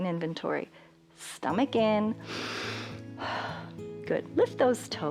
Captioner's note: inhales and exhales